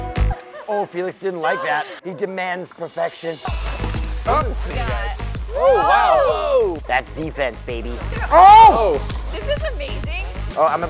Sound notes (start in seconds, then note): 5.7 all cheering